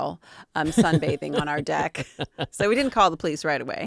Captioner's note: laughing